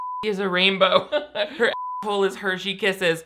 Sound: laughs

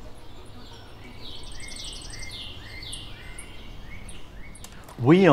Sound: birds chirping

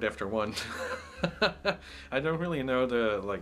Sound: laughs

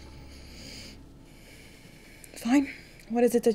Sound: sighs

